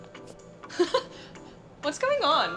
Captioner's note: laughs